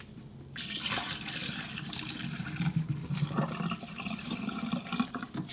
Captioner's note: water draining out